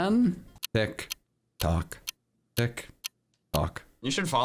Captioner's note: clock ticking